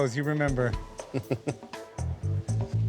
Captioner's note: chuckles